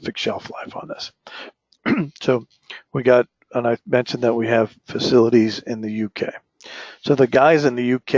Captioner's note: cough